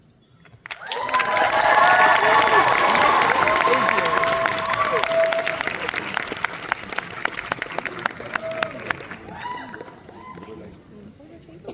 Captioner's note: applause